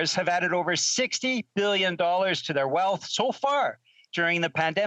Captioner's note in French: voix de l'interprète